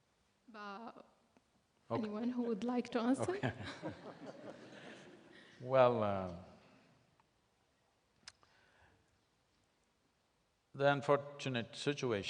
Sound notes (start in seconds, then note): 3.2 laughter; 7.0 laughs